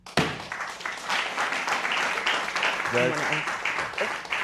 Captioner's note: applause